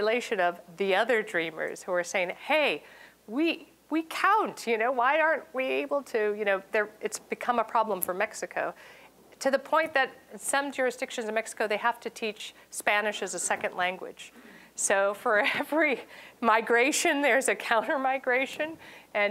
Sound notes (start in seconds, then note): 14.2 chuckling